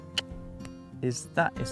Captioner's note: clicks tongue